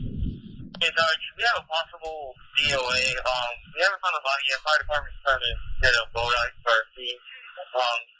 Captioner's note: on police radio; police radio chatter